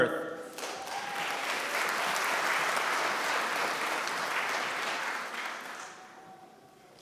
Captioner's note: applause